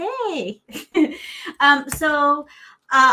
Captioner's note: giggling